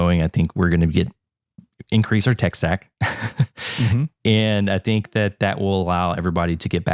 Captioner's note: laugh